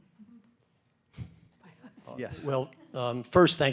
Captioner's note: group chuckling